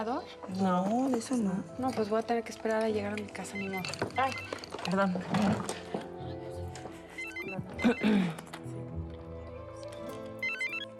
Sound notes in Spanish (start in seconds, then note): 7.1 suena el celular; 7.8 carraspea